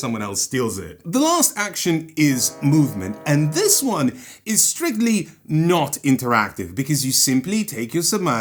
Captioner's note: foghorn blast